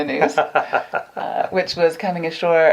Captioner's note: laughs